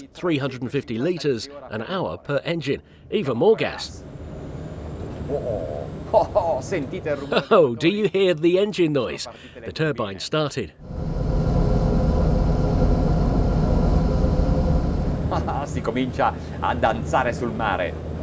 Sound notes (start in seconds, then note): 5.3 laughing; 10.8 engine whirs powerfully; 15.2 chuckling